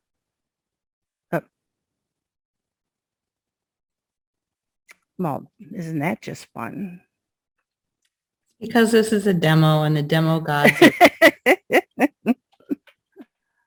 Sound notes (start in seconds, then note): 10.5 laughing